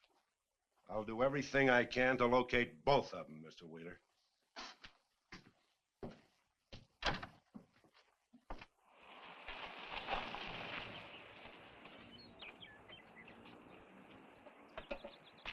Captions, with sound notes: I'll do everything I can to locate both of them, Mr. Wheeler. (door thuds) (birds chirping)